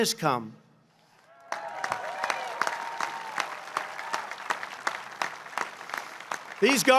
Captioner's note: applause